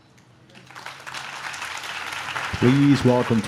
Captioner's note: audience claps